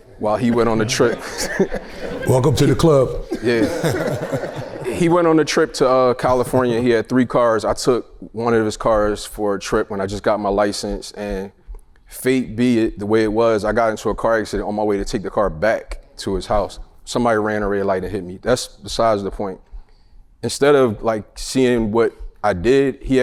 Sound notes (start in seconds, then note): 4.1 group laughs